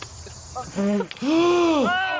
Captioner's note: inhales sharply